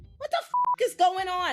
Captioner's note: beep